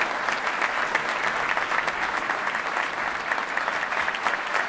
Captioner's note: applause